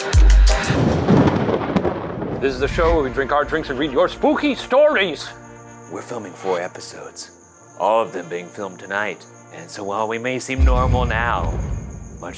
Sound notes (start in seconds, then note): 0.4 thunder clapping